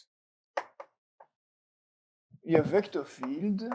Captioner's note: chalk taps